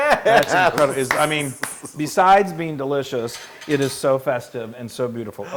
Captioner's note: laugh